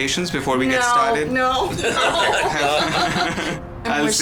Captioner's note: laughs